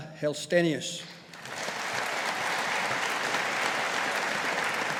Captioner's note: audience applauding